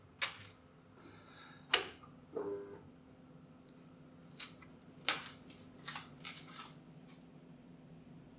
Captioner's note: lights buzzing on